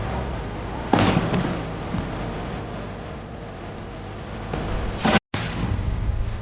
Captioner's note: dramatic music; cannon booms